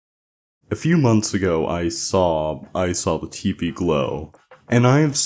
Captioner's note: saw